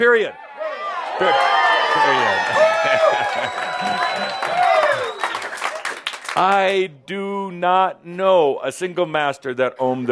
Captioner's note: audience responds “Yeah!” and “Woo!” and some applause